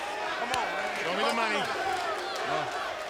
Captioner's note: audience cheering